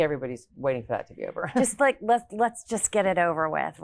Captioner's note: laughs